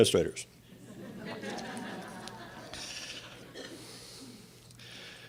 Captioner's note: audience laughs